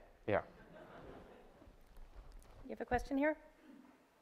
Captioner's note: audience laughter